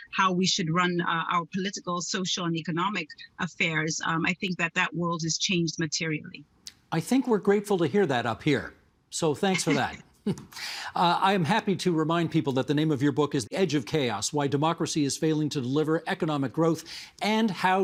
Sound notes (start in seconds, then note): 6.3 laughter